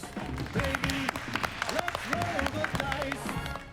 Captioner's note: clapping